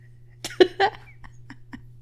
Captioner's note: laughing